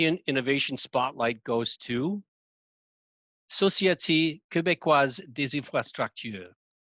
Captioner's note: speaking in foreign language